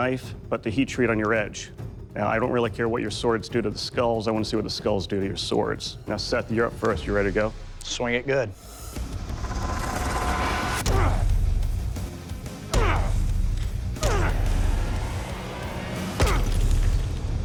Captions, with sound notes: but the heat treat on your edge. I don't care what your swords do to the skulls, I wanna see what the skulls do to your swords. -Seth, you're up first. Ready? -Swing it good. [intense music playing] [grunting] [grunting]